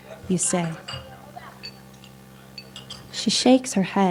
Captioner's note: background chattering; silverware clanking